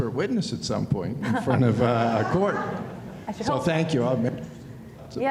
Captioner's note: laughter